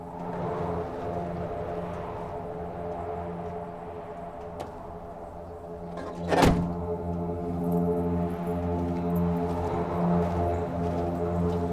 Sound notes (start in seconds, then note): 0.0 wind whips; 5.8 rumbling intensifies